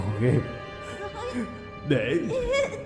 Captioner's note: hardly breathing